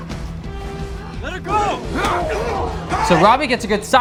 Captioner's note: blow thudding